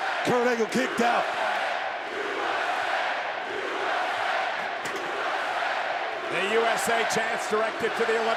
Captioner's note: applause